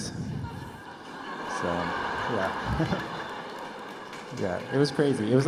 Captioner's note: laughter